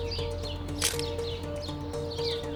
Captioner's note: camera clicking